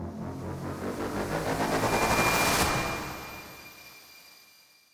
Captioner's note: logo whooshing